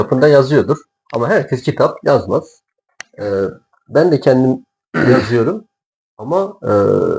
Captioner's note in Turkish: boğazını temizler